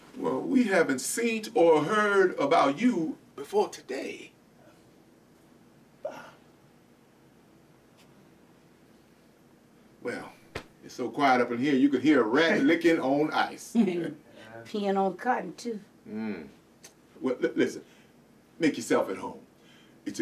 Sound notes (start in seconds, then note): 14.0 chuckling